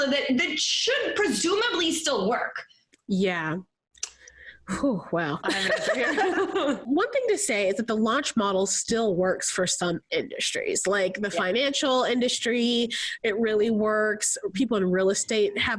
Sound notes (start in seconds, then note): 5.4 laughs